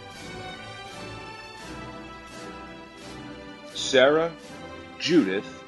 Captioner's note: none